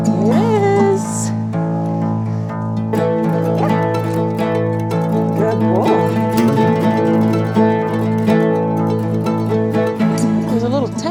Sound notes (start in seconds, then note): 3.6 barks; 7.1 ethnic acoustic music